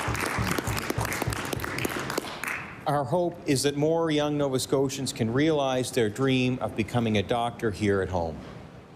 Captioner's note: applause